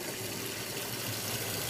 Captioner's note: rippling